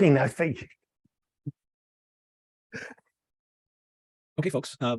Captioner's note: laughing